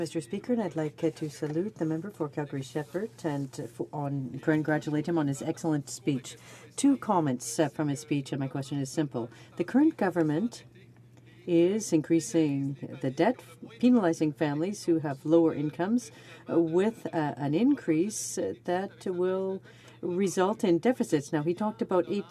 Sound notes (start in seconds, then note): 4.1 speaking french